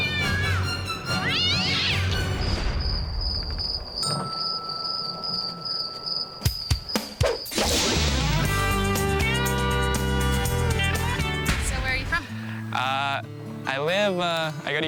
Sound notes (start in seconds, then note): 1.1 cat meowing; 2.2 crickets chirping; 6.5 upbeat music